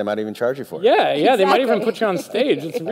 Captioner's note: laughs